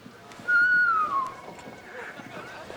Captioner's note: whistling